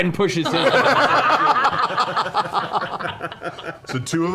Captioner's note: laughter